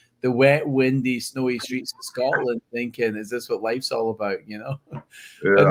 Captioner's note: laughs